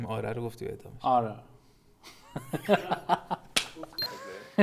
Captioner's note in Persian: خنده